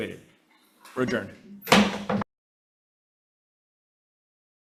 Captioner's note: gavel slamming